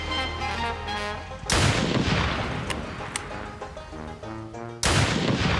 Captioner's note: gunshots